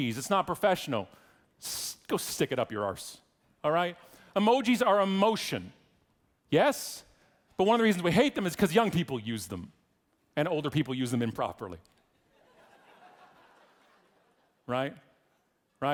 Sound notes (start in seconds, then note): 12.3 audience laughing